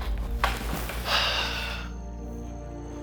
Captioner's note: sigh